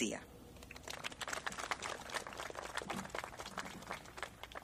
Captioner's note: clapping